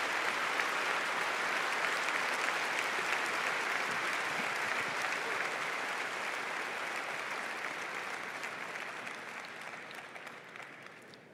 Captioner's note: applause